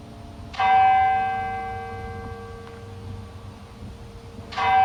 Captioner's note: church bell dinging